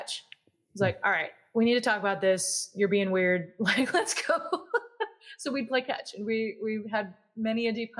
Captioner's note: laugh